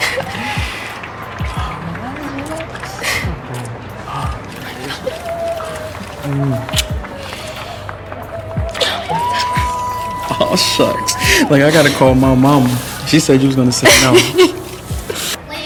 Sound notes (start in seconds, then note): 0.0 Dell laughing; 0.3 attendees cheering and clapping; 8.7 both laughing; 13.7 Ja'nelle laughing